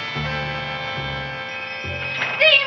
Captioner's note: shop bell chimes